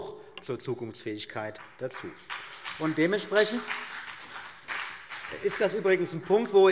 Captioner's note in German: Beifall BÜNDNIS 90/DIE GRÜNEN